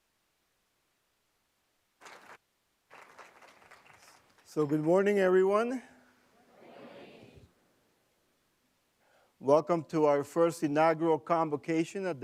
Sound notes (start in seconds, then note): 2.8 applause